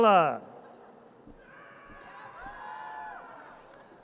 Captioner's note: audience cheers